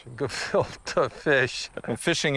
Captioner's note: chuckling